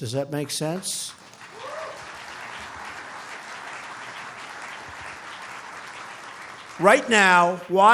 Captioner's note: applause